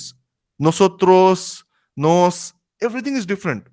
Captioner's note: Spanish